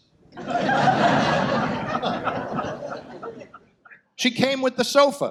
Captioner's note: audience laughs